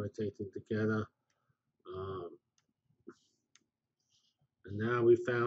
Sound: pause

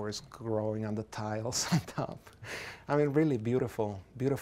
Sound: laughs softly

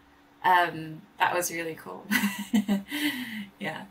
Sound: laughs

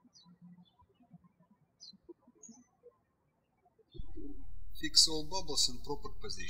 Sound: birds chirping

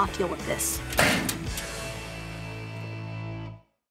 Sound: locker door closing

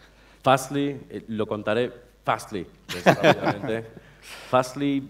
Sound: speaking spanish

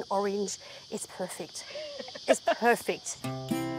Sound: laughs

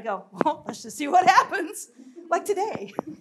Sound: laughs

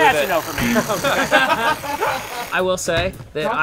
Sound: laughter

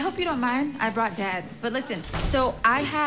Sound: door closes

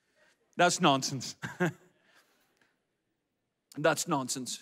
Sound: laughs

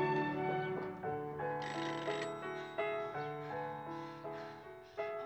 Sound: doorbell ringing

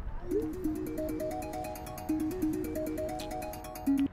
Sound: phone ringing

